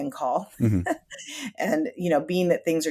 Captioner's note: chuckles